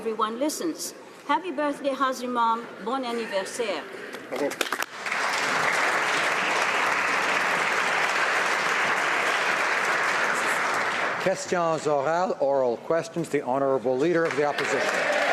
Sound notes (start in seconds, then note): 11.4 applause